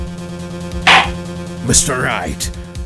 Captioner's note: gavel slams!